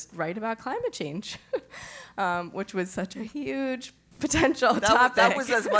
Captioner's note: laugh